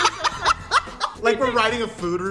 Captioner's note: laughter